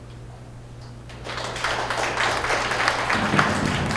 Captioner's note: applause